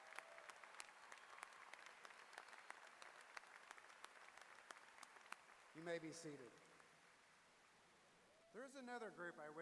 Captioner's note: applause